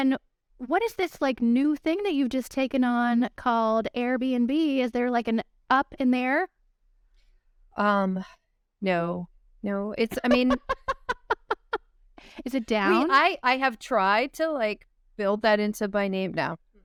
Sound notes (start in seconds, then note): 10.1 laughter